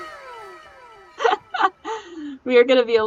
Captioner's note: laughs